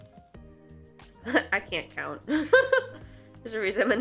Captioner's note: laughs